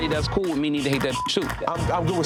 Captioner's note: beep